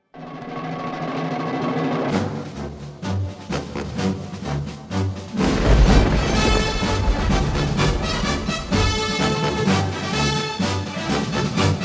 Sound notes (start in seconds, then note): 0.2 lively music; 5.3 thunder cracking; 6.0 dynamic music